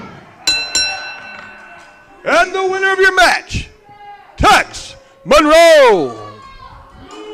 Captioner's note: bell sounds